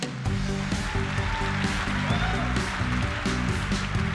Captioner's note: applause